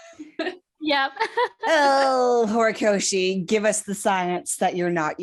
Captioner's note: wheeze; groans